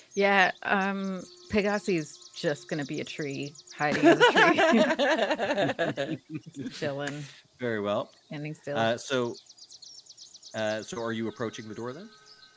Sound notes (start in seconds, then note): 3.9 Cornette laughs; 5.7 game Master laughs